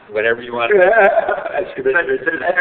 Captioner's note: laughing